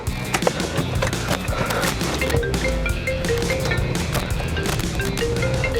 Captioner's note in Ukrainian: дзвонить телефон